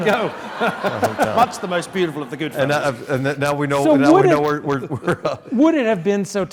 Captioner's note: laugh